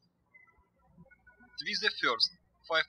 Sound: birds chirping

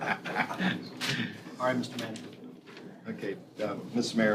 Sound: laughter

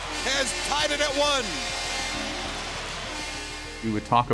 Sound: horn blares

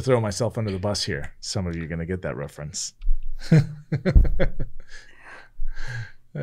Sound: laughing

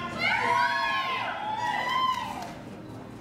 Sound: cheering

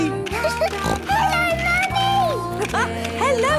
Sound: laughing; giggling and snorting

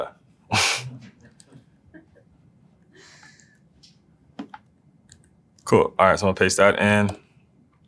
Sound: laugh

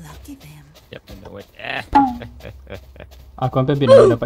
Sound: laugh

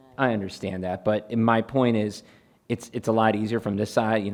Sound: none

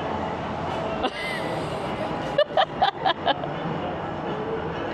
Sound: laughs

